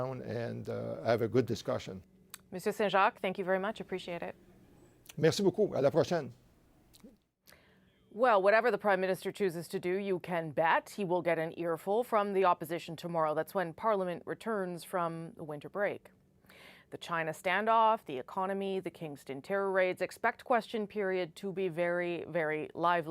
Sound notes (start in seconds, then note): 13.0 speaking French